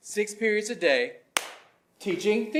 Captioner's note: claps; claps